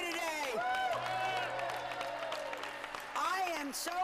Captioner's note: cheers and applause